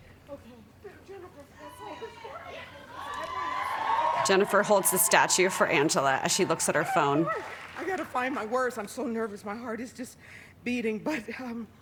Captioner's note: applause